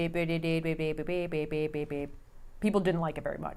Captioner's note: robot computing